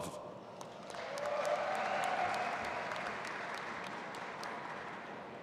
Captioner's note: audience applauding